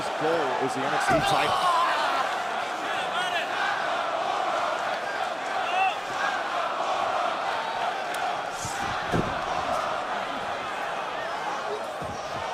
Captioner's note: crowd cheering